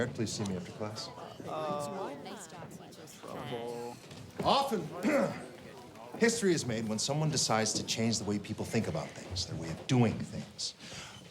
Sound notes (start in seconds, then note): 5.0 clears throat